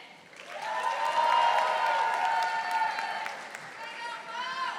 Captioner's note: audience applauding